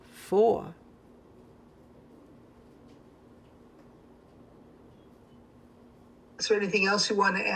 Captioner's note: pauses 6 seconds